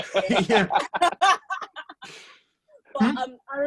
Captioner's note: laughter